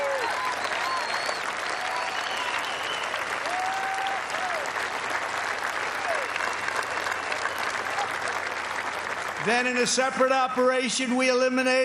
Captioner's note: cheers and applause